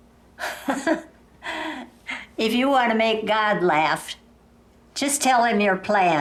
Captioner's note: chuckling